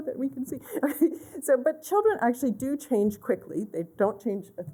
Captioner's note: laughter